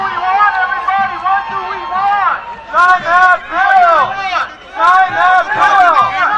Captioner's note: cheers and applause